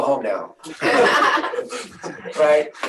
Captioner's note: laughs